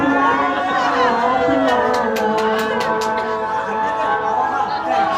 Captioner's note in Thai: ปรบมือ